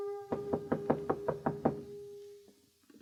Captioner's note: horn; knocking